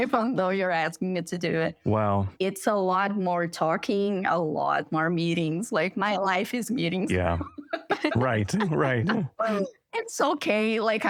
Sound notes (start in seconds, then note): 7.1 laughter